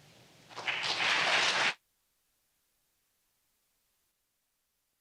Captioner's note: audience clapping